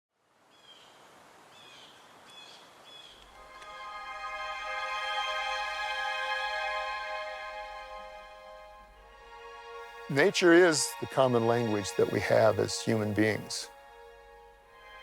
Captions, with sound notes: (birds screeching) (water flowing) (gentle, uplifting music) - [Voiceover] Nature is the common language that we have as human beings.